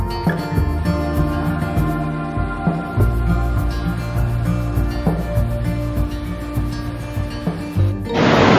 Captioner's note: water gushing